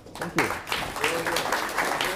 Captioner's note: applause